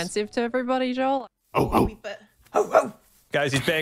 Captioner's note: barks